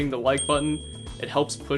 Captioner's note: bell dings